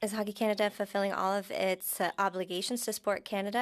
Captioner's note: speaking French